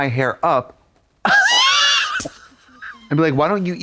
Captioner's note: Katya wheezes